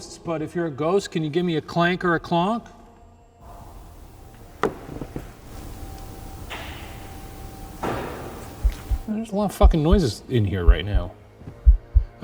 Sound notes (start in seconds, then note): 6.5 floor creaks; 7.9 knock thuds